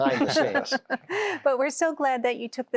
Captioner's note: laughter